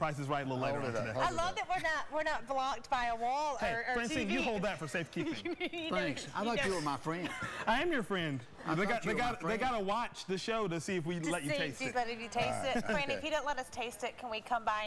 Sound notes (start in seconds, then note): 12.6 laughter